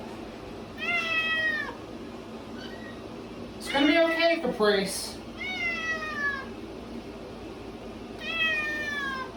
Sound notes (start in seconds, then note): 0.0 Caprice meows louder; 2.1 Caprice meows loudly